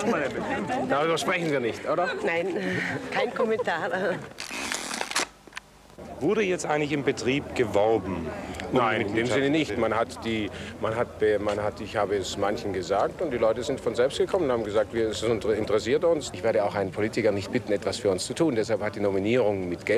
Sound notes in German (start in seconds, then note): 4.4 Knirschen